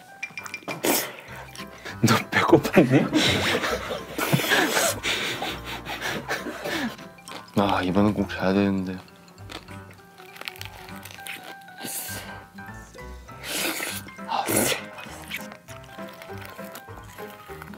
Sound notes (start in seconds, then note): 0.2 slurp; 4.5 slurping